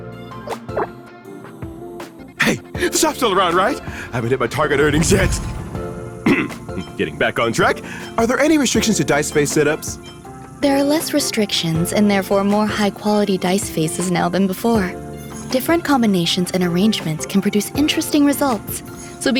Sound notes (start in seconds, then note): 6.2 cough